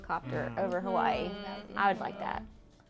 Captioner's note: all muttering agreement